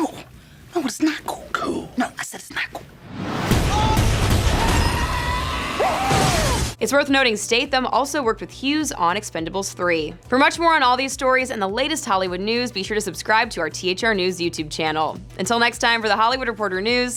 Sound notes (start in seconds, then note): 3.3 gun shots fired; 5.2 screaming